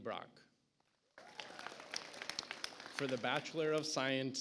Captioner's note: audience applauds